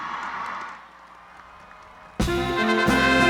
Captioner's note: cheering